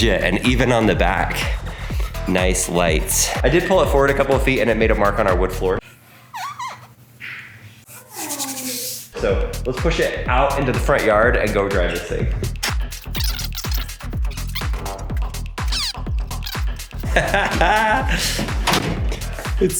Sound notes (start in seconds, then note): 6.7 wood squeaking; 13.5 upbeat music; 17.0 father laughing